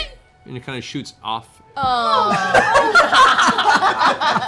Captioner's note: laughter